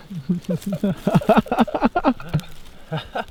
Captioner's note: both laughing